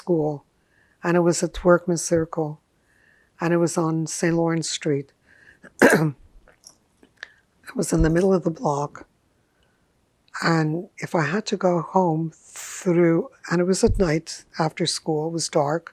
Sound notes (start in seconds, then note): 5.6 clears throat